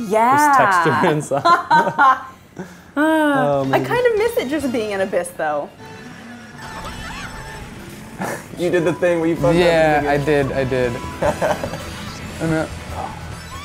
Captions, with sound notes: - Yeah. - There's texture and stuff. (laughs) - (sighs) I kind of miss it just being an abyss, though. (beeps) - You did the thing where you fucked up the beginning. - I did, I did. (chuckles) Oh, no.